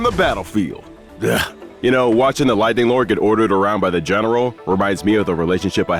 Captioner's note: sigh